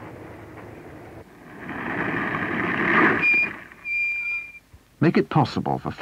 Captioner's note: vehicle stops, brakes squeak